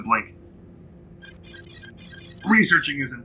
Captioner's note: machine beeps